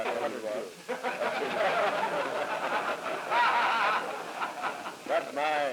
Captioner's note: laughter